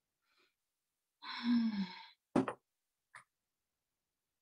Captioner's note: sighs